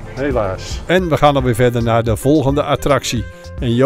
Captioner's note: voiceover